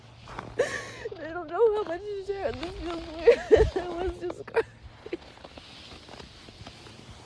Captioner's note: sobs